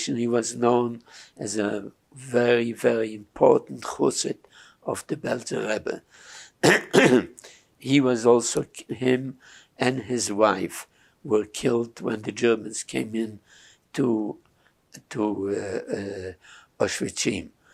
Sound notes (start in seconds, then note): 3.6 yiddish; 6.6 clears throat